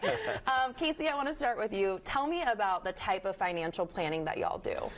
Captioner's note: laughs